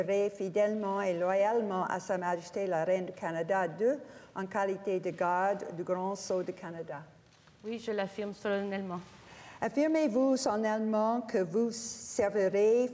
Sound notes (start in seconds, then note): 1.1 speaking French